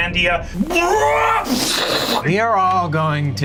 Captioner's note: imitates explosion booming